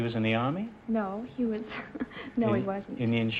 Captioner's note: laughing